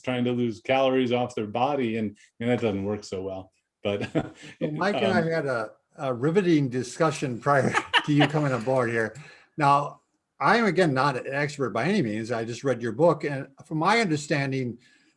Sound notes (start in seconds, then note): 3.9 laughs; 7.4 laughs